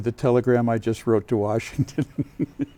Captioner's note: laughter